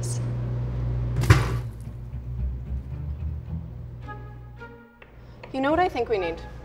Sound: egg pops; slow music

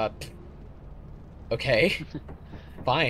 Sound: heheh

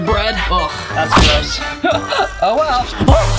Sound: grunts; laughs

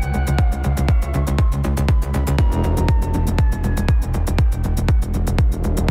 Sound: emergency vehicle sirens

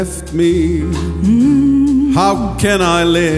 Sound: mmm-mmm-mmm

